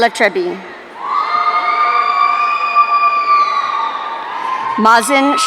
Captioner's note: audience cheering